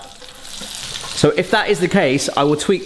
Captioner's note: oil sizzling